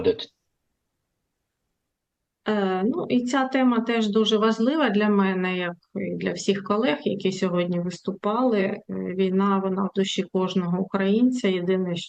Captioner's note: foreign language